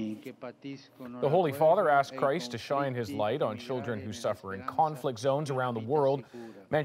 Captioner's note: speaking foreign language